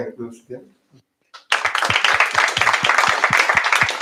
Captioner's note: applause